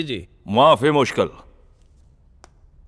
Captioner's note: Speaking in Arabic